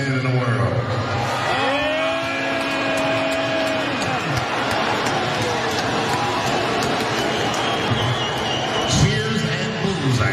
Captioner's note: applause